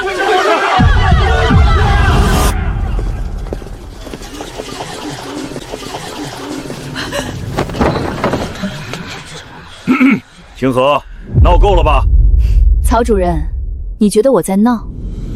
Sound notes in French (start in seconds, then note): 9.8 Tousse tousse !